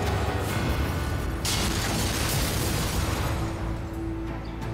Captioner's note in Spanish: Explosión